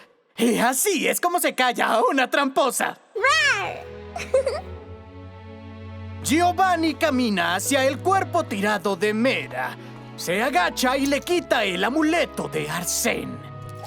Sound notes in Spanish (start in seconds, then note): 4.1 Risas